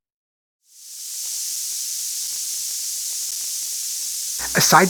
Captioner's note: water running